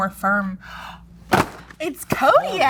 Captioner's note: gasping